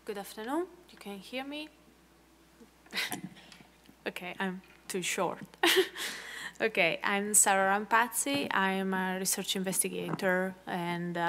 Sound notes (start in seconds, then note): 5.4 laugh